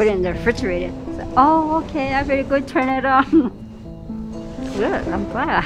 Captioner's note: chuckles